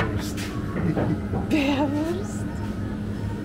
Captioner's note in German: Gelächter